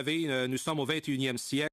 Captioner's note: speaking French